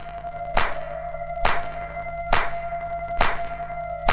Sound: clapping

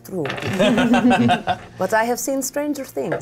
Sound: laughs

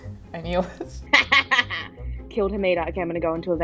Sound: laughing

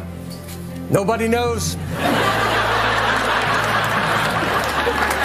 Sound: audience laughs

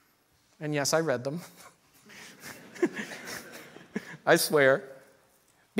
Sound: snickers

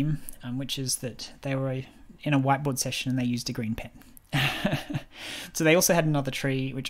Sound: laughs

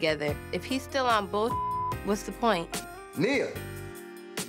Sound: beep

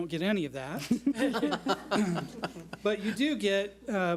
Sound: board laughs

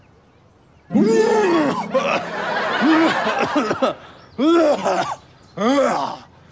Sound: groaning; coughing

